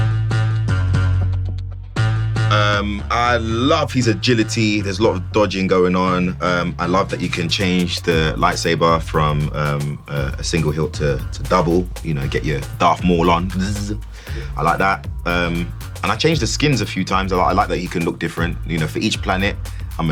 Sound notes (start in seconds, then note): 0.2 upbeat music; 13.2 buzzing